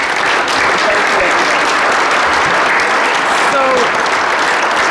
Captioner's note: applause